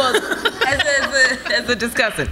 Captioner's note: audience laughs